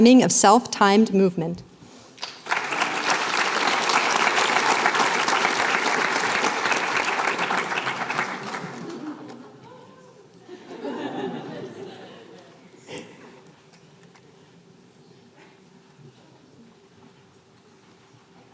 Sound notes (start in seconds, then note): 2.1 applause; 10.4 laughter